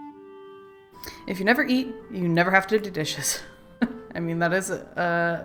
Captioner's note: laughs